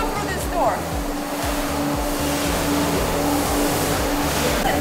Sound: machinery humming

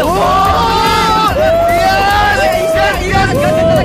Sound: all scream

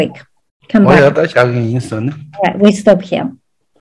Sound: speaking in foreign language

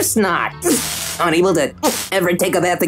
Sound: electrical shock

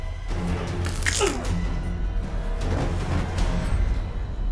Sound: neck cracks

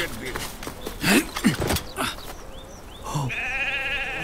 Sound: man speaking in foreign language; man grunting; sheep crying

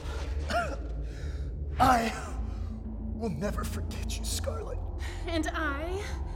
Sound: cough

